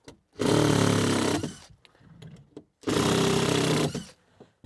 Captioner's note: drill grinding